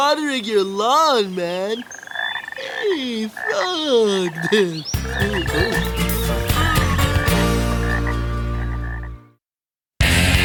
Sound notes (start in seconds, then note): 3.3 croaking